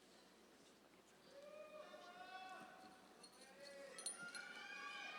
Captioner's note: audience members cheering